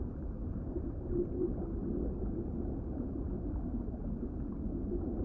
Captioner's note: water gurgling continues